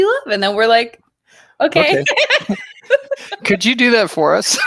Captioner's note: laughs